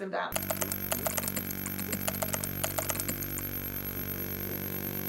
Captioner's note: keyboard keys clicking